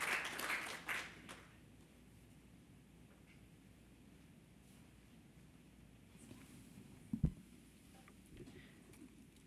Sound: applause

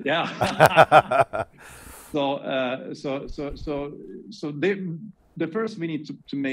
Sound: laughing

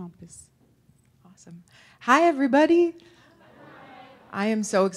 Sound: audience responses

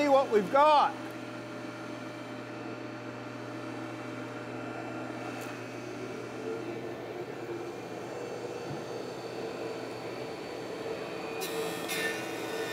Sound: planer hums

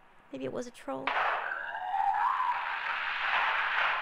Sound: gunshot; roaring troll

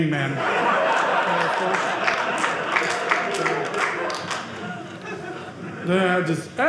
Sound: audience laughing

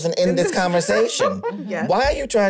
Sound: laughs

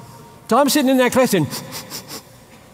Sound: sniffing

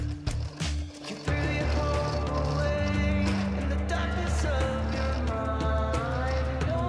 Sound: clattering; relaxed rock music

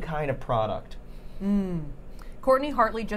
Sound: sniffing

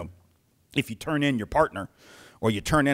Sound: stern voice

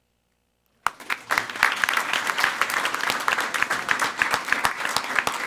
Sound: everyone applauding

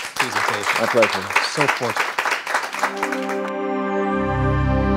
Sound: applauding

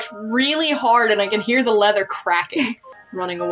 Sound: chuckle

